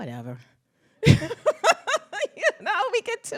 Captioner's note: laughs